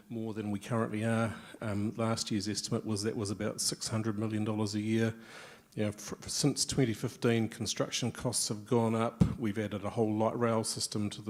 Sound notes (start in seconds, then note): none